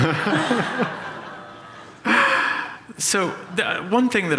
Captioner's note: laughter